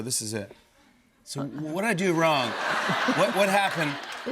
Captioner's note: laughter